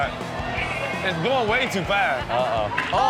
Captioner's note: audience grumbles worriedly